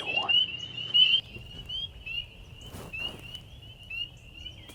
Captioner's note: birds chirping